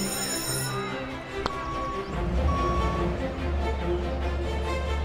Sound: truck backing up beeping

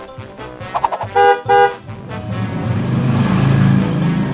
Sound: car honking

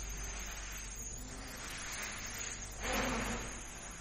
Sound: quadcopters buzzing

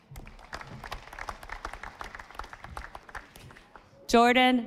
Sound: audience applauding

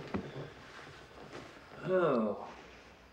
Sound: sighing

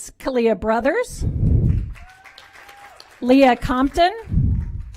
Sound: applause

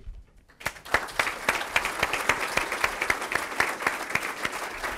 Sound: audience applauds

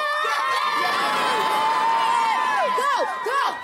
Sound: cheering

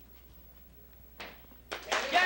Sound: loud slap

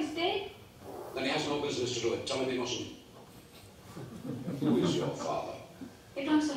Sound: laugh

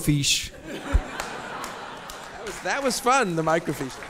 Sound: audience laughs; audience applauds

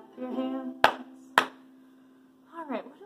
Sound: clapping

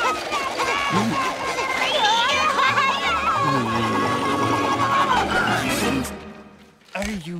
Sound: screaming

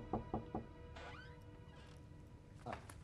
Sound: knocking at door; door opening

